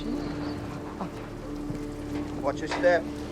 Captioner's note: Faraday whimpering